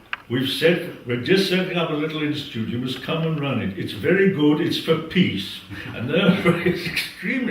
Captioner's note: laugh